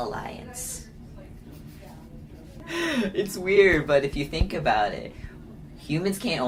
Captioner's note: laughs